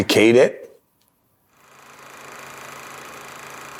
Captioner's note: film reel noise